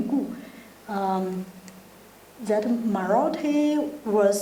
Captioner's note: speaking in foreign language